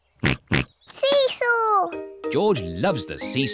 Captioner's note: oinks